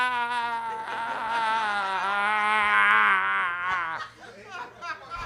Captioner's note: audience laughs